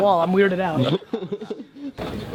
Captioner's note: laughter